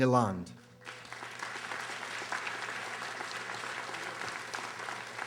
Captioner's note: audience applauding